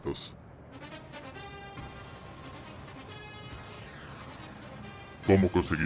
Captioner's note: phone sounds with the NFL theme